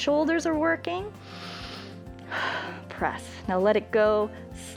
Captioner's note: inhales and exhales